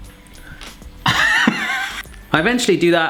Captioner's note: laughing